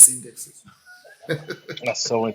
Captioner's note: laughs